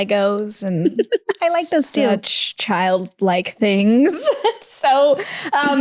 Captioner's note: laughs